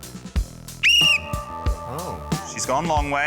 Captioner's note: blows whistle